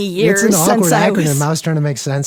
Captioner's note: laughs